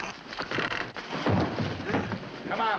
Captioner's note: thump